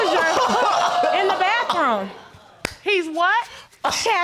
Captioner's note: laughs